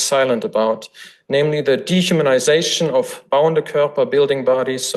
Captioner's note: foreign language